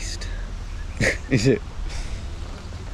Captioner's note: laughs